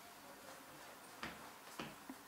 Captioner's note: foot steps